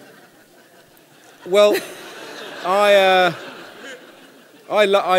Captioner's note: laughter